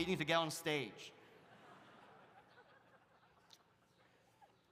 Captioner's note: audience laughs